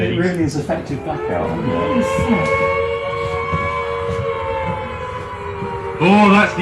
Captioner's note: siren